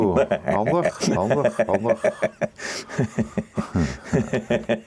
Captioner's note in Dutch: gelach